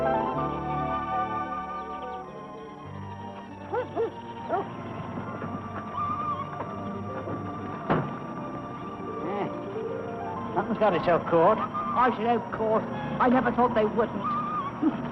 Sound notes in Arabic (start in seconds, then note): 3.6 نباح